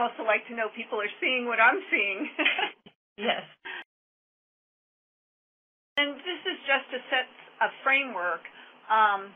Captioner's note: laughter